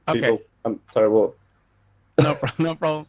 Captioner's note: laughing